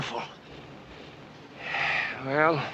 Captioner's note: sighs